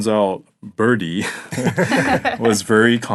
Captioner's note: all laughing